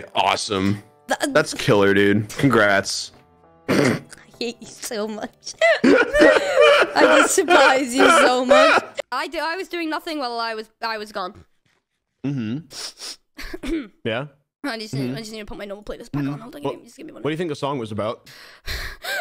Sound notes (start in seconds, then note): 5.6 dying from laughter; 14.8 sniffing